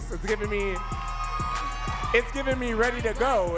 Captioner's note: audience cheering and clapping